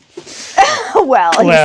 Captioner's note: chuckles